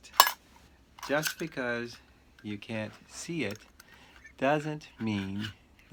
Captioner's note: metal clanks